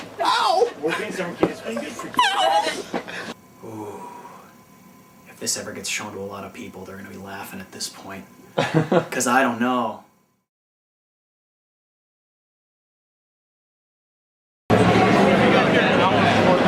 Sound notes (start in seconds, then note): 2.2 high-pitched squeak; 8.5 laughs